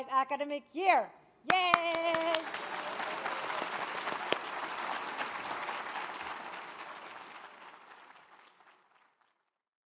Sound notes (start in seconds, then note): 1.8 applauding; 1.9 audience cheers